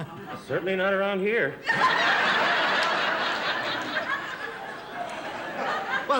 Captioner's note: laughter